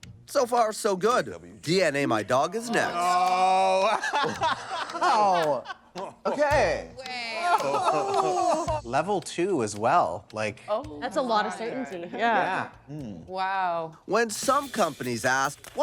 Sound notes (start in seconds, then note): 2.6 all exclaiming; 7.4 all laughing